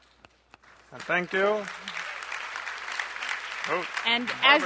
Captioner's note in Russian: аплодисменты